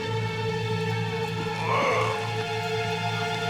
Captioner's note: grunting